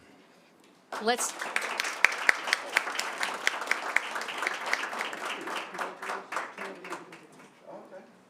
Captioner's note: applause